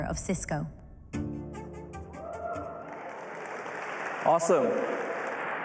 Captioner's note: applause